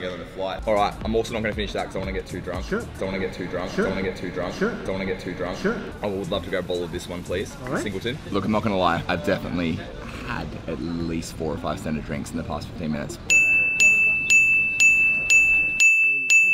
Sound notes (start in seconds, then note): 13.3 dinging